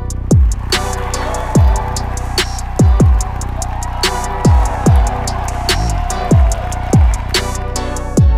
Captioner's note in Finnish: Huutoja ja suosionosoituksia